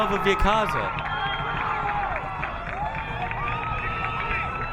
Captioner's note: crowd cheering